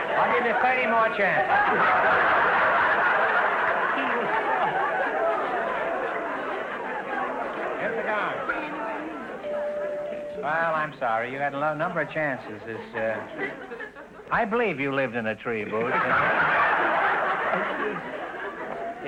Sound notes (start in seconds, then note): 1.7 audience laughter; 9.4 chime rings; 15.6 audience laughter